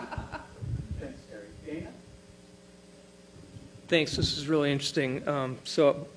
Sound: laughter

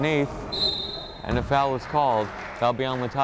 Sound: whistle blows

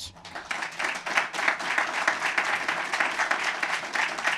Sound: applause

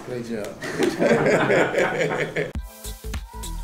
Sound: both laughing; upbeat music

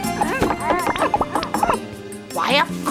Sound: owl whimpering

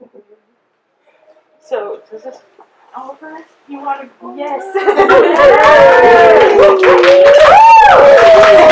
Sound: audience applause and cheers

